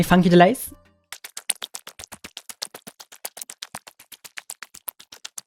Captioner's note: digital sounds